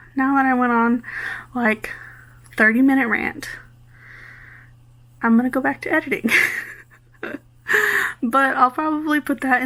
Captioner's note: laughs